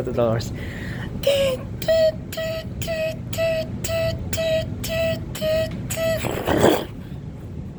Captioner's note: mimicking door closing sounds, AS PER USUAL